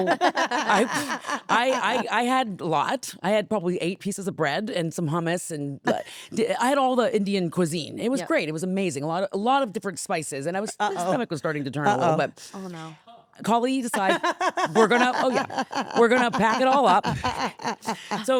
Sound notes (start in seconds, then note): 0.0 Stephanie and Elyse laughing; 14.0 Stephanie laughing